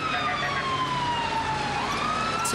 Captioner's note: sirens